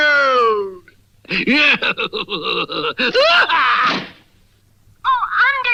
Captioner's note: Simon Bar Sinister Laughs & Closes the Door